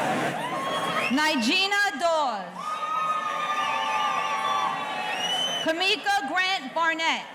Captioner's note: audience cheering